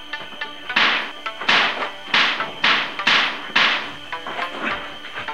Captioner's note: karate strikes & blocks